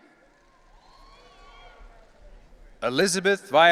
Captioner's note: audience cheering